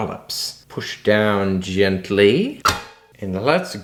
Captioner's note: pops